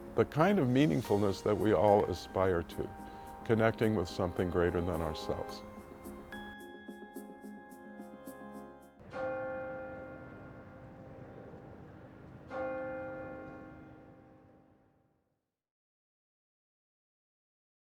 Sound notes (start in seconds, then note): 6.3 bell ringing; 6.3 upbeat music